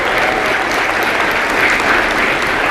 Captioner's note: applause